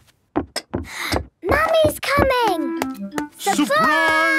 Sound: footsteps approaching

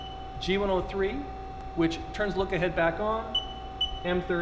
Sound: beeping; beeping

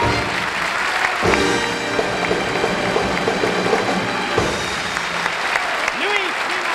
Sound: audience applauding

